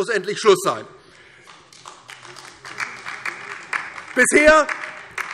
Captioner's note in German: Beifall DIE LINKE